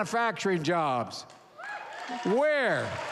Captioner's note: applause